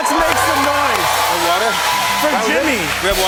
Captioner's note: cheers and applause